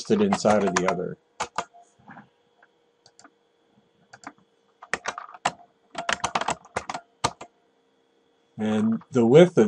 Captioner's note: typing